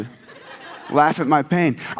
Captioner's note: audience laughs